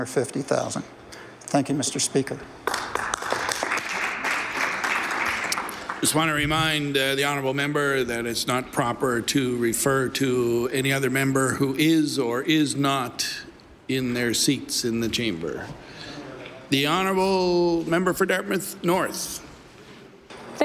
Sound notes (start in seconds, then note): 2.6 some Applause